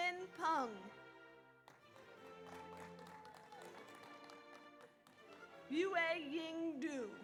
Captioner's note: audience cheers; audience applauds